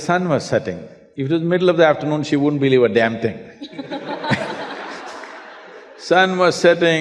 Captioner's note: laughter